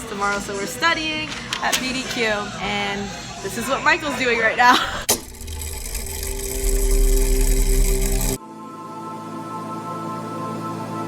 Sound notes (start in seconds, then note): 4.9 mechanism whirring